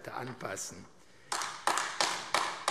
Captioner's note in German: Beifall AfD